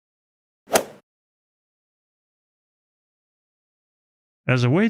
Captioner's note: golf ball hit sound effect